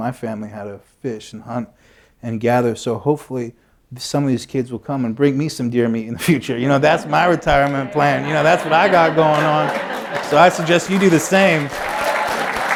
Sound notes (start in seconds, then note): 6.6 laughter; 11.8 applause